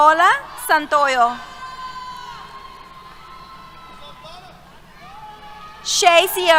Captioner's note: cheers